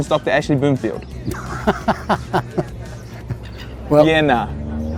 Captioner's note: laugh